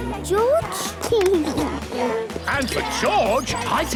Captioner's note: George snorts; giggles